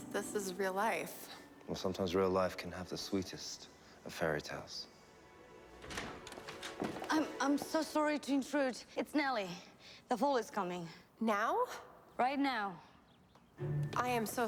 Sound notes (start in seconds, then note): 5.7 door opens